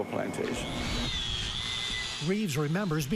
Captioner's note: tool whirring